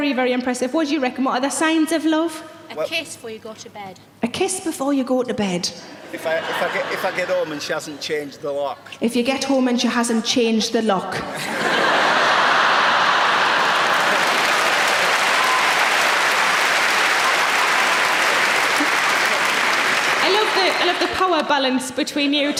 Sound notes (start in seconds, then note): 11.3 audience laughing; 13.7 audience clapping